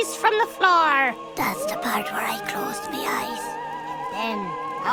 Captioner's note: whispering